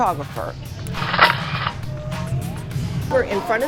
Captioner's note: camera clicking